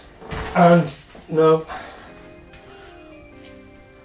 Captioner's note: sighs